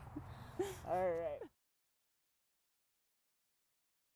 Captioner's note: laughing